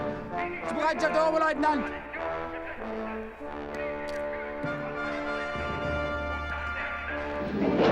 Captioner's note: speaking german